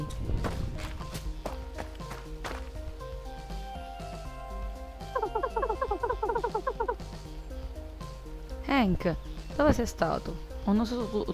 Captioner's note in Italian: Risate